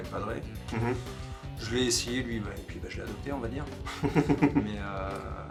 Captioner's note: snickers